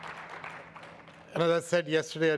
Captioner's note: audience applauds